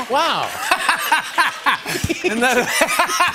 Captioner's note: laughter